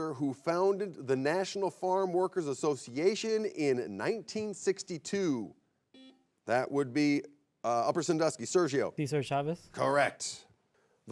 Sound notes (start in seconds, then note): 5.9 buzzer beeps